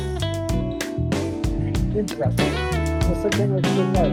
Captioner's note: ambient chatter